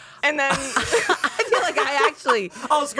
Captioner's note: everyone laughs